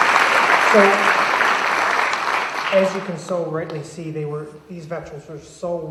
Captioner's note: applause